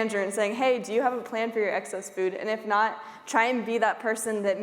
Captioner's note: none